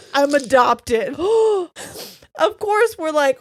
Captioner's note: gasps